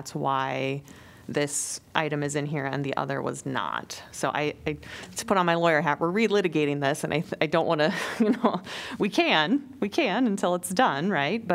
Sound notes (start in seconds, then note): 7.9 laughter